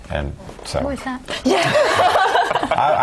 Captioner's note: laugh